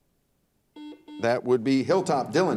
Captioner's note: buzzer dings